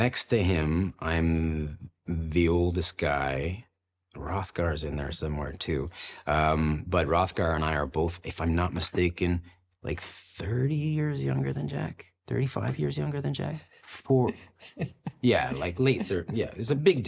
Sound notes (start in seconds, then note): 14.1 laughs